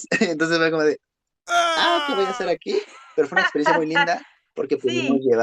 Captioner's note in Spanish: risas